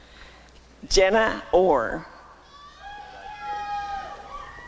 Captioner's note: applause and cheering